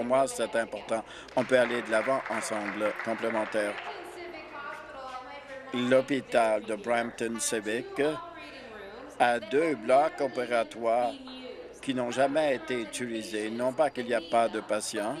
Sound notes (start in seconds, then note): 5.7 applause